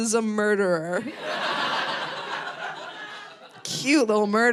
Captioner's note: audience laughing